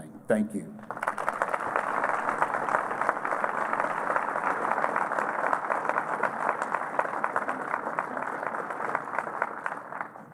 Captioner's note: applause